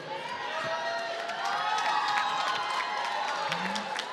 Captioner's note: applause